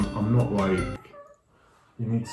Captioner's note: cat meows